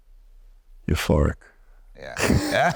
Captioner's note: laughing